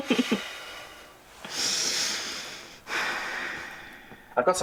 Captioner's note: giggles; breathes deeply